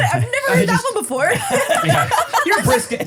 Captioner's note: everybody laughs